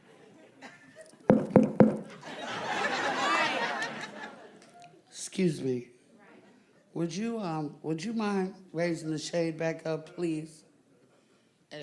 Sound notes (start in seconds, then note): 1.3 comedian knocks microphone; 2.0 audience laughing